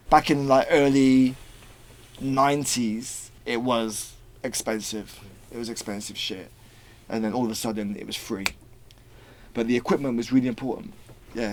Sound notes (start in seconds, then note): 8.4 snaps